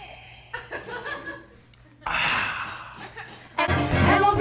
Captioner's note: honest to god ear sex gasp